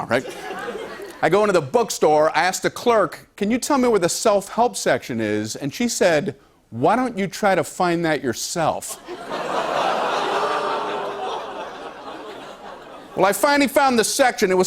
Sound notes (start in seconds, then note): 0.3 light laughter; 8.8 laughter; 9.0 audience groans